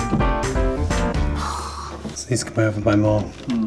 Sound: sighing heavily

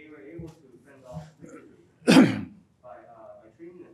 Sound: clears throat

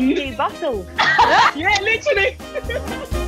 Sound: laughing

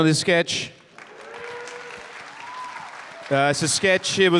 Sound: audience applause

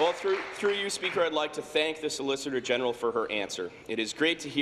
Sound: applause

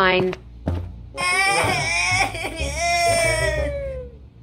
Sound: crying

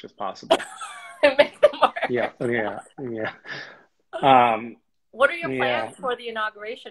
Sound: laughs

